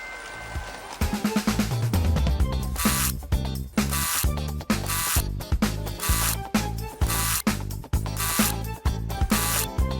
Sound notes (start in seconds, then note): 2.6 electrical buzzing